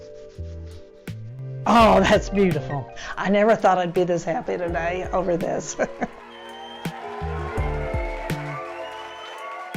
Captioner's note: applause